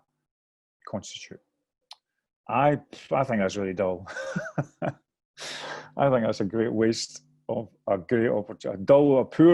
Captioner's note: laughter